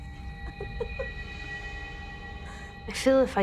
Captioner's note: laughs